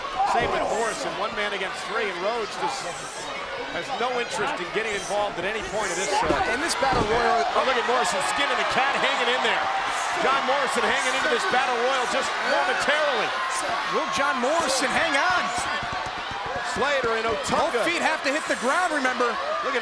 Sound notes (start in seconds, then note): 15.7 crowd cheering